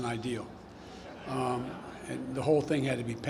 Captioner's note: laughter